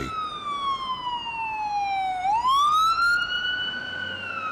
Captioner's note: siren blaring